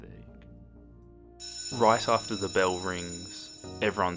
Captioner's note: bell Rings